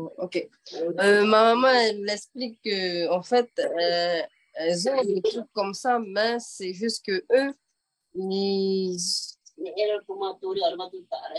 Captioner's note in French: En français